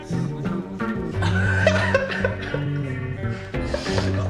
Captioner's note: laughing